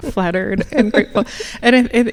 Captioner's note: laughing